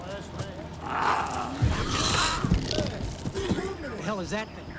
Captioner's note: cougar growls and snarls